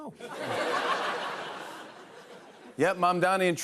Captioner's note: laughter